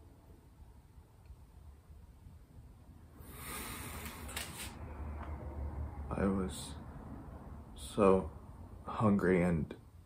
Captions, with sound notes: *breathes in deeply* I was.. so.. hungry and..